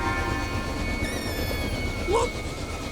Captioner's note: chirping